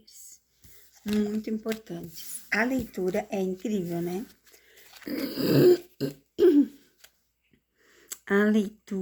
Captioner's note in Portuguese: limpando a garganta